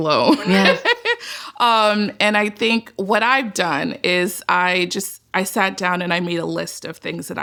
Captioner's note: laughs